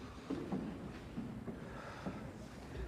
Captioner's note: sighs